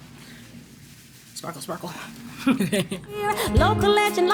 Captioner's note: laughing